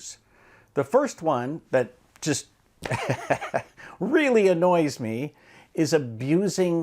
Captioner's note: laughs